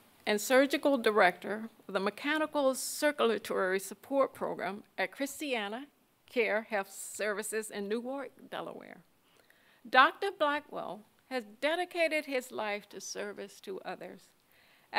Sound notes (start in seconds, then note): none